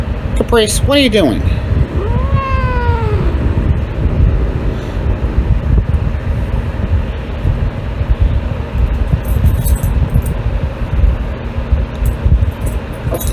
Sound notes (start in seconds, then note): 1.4 Caprice growling, then yowls; 7.3 Caprice continues to growl